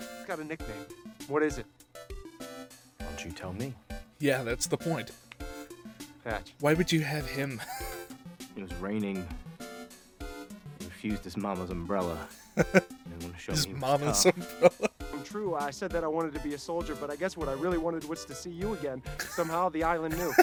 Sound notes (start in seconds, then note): 7.5 wheeze; 12.2 chuckle